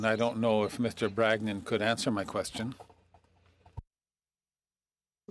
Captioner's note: speaking French